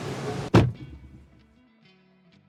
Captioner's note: trunk shuts